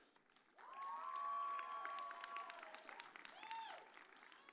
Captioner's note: audience cheers